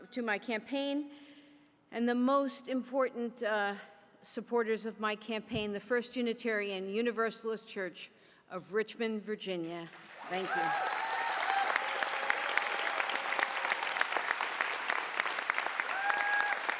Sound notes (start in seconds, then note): 13.9 applause